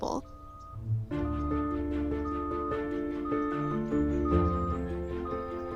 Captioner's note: beeping